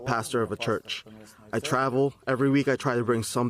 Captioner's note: speaking non-english